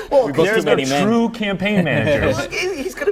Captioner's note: laughter